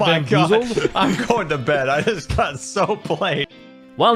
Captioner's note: mock anguish